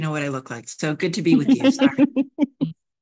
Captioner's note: laughs